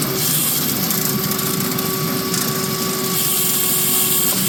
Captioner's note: drill whirring